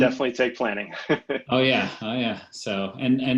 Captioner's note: laughs